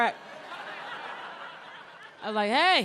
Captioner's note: audience laughs